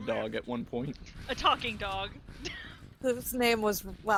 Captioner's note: laughs